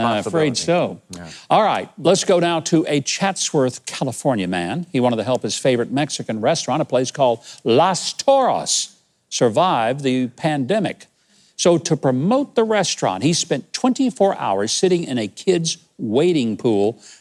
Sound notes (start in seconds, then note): none